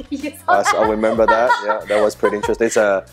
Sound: laughing

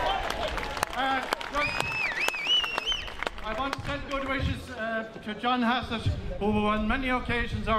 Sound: cheers

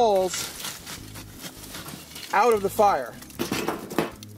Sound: shovel crunches coals; coals thump on metal; sparks crackle

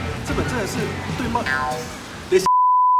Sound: stammer

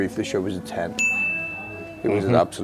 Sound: bell chimes

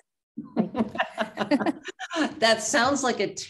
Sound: laughs

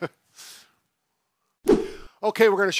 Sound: both laughing; air whooshes

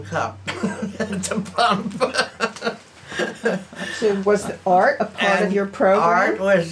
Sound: laughs

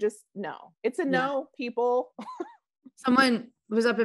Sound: chuckling

